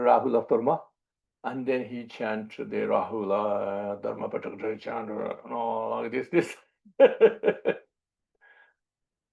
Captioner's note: laughs